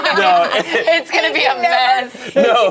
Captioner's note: group laughs